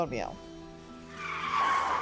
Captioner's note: tires Squealing